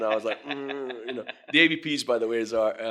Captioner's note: laughing